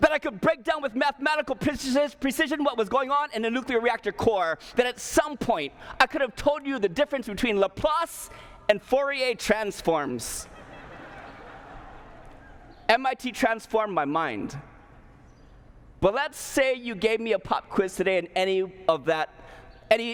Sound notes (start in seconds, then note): 10.4 laughter